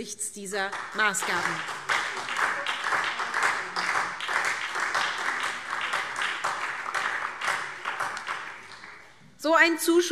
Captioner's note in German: Beifall SPD